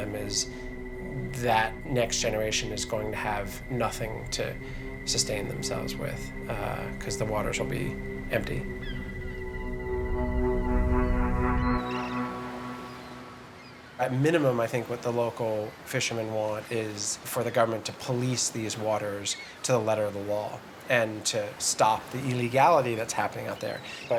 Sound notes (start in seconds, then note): 9.1 birds calling; 10.8 gloomy music